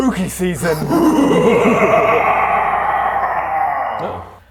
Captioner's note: mwhahahahahahahahahahahahahaha